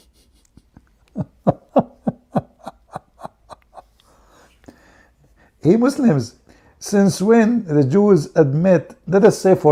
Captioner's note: Ketawa